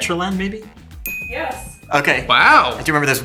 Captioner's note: bell chimes